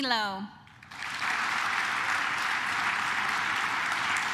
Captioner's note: claps